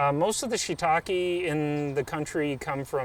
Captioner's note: birds chirp